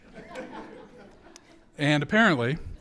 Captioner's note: audience laughs